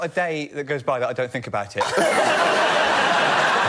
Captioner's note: laughter